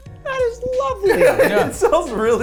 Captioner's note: chuckling; relaxing instrumental music; laughing